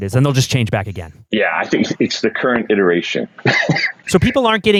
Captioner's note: laughs